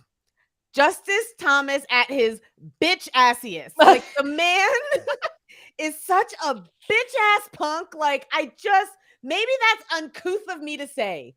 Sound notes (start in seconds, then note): 3.8 laughs